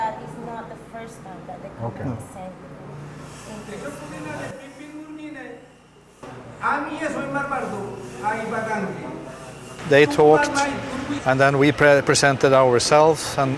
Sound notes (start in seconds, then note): 4.0 speaking foreign language